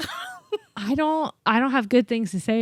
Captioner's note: laughs